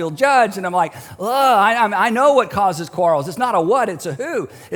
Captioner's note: groans